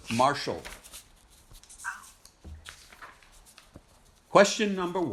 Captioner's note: pages flipping